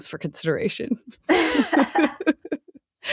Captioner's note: laughing